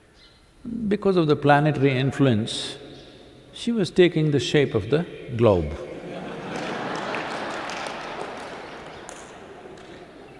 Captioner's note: laughter